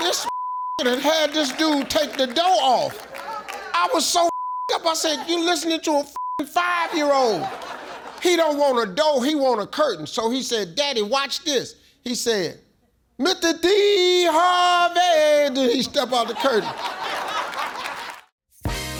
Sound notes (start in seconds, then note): 0.2 beep; 4.3 beep; 6.9 beep; 15.8 audience laughs; 18.6 upbeat music